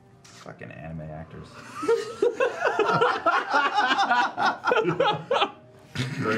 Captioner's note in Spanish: risas